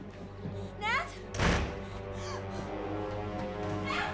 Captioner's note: door slams